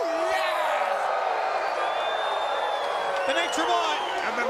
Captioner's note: crowd cheering